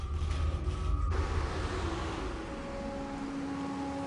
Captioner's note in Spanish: Ruido del vehículo